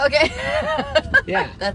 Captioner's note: laughs